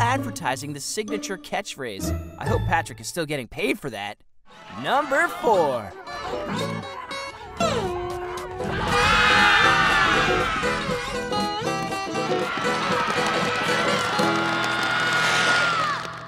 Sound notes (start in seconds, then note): 5.7 screaming